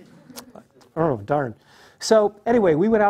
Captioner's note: laugh